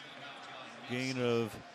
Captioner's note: pa announcement